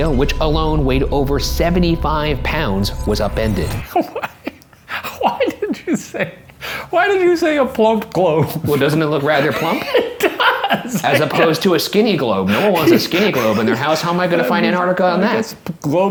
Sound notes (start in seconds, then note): 3.9 laughing; 9.2 laughing